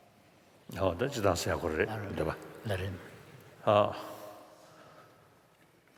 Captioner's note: foreign Language